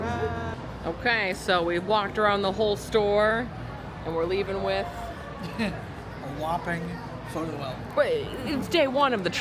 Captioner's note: laughs